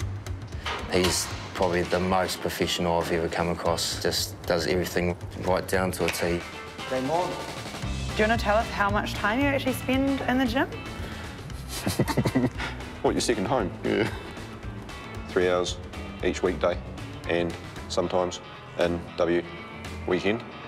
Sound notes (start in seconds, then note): 11.6 laughs